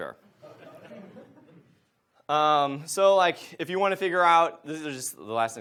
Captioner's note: audience laughs